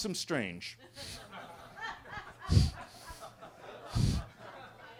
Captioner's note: everybody laughing